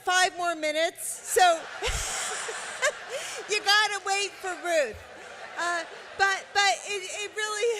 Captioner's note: laughter